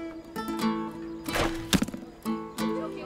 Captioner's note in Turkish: Ok fırlatma sesi